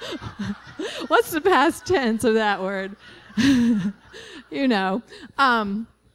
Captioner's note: laughter; laughing